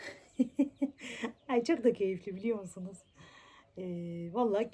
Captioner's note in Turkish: kahkaha